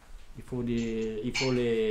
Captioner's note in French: none